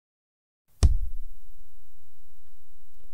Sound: cup hitting camera

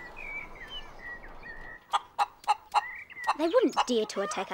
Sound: birds chirping

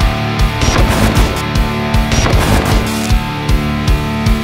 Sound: static buzzing

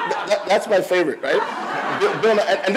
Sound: audience laughs

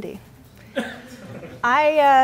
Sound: laughter

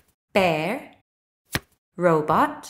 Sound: the sound of a card being turned over can be heard

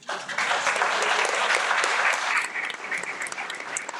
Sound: everyone applauds

